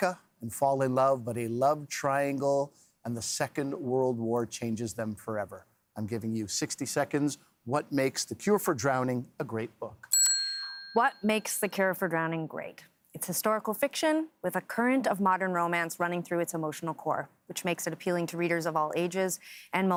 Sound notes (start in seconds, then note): 12.1 bell rings